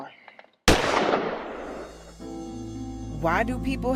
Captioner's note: gunshot